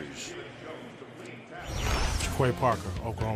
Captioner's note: pa announcement